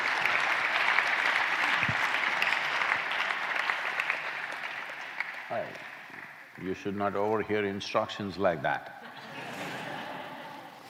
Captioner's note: applause; laughter